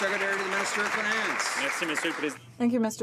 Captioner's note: some Applause